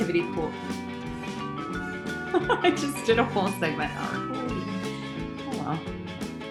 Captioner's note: laughs